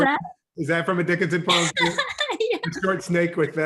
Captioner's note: laughs